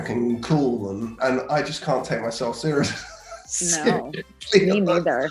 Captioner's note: laughs